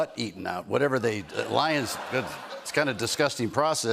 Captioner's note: laughter